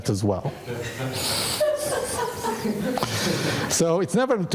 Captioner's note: audience laughing